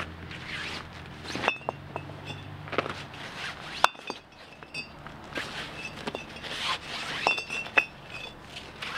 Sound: bricks clinking

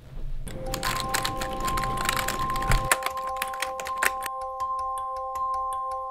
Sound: computer keys typing; electronic bell music

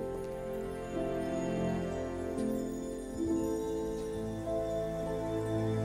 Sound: magic lights begin to tinkle

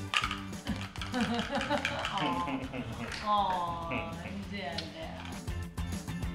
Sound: laugh

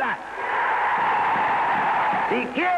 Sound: cheering

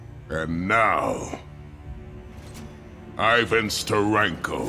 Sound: none

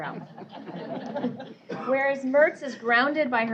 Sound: laughter

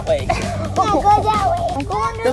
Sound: laughter

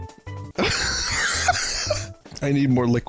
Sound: dying laughter

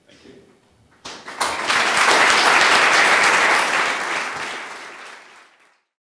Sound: applause

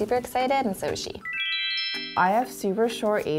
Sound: sparkly noise

